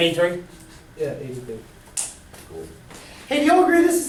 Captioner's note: voiceover